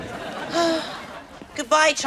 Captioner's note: sighs